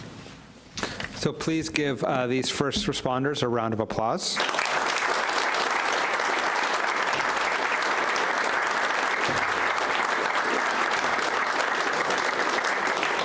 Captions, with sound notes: - So please give these first responders around round of applause. (audience applauds)